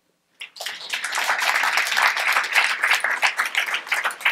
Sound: audience applauds

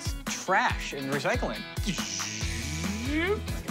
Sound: imitates machinery

